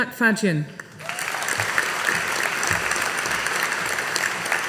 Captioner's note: audience applauding